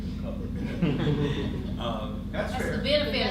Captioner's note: audience chuckles